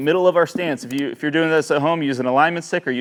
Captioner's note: mouse clicks